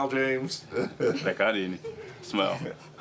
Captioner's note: speaking in native tongue